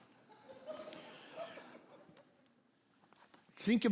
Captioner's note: congregation laughing